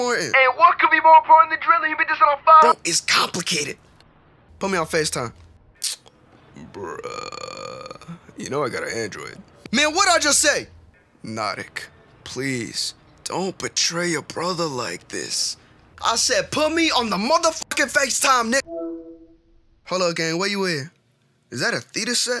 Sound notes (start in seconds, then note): 18.6 facetime answer noise